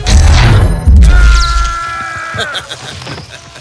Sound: quill screaming; rocket laughing

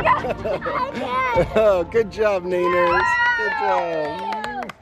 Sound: cheers

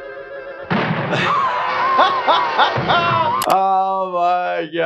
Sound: laughs

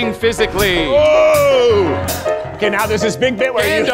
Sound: groans

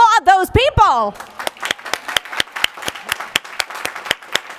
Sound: applause

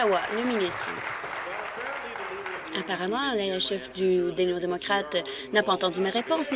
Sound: applause

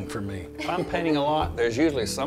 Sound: laughter

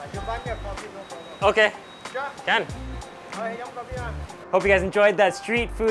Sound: speaking in foreign language

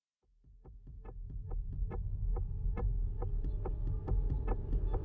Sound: clock ticks; tense music

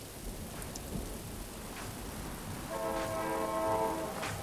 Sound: train horn blaring; rhythmic clapping

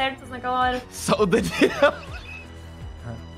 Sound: laugh

